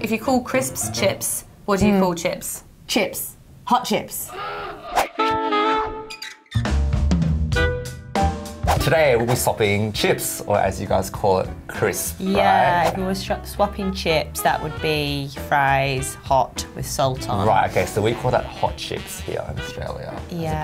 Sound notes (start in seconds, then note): 4.4 upbeat music; 5.1 horn sounding